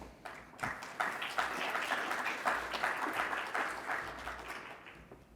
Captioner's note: congregation clapping